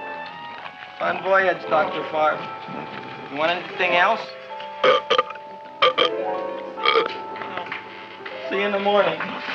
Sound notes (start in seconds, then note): 5.8 Audrey Jr. burping; 9.3 mysterious music